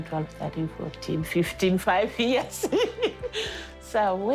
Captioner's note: laughs